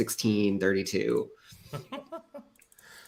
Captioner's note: laughs